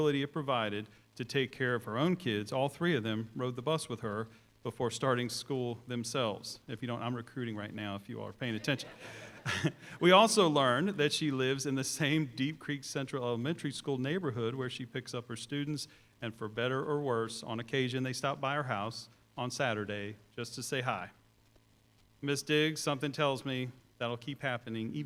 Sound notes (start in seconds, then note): 8.5 chuckles